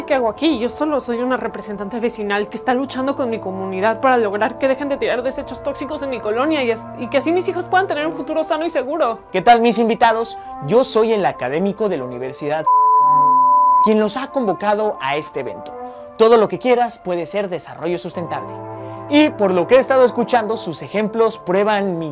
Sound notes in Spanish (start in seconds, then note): 12.6 beep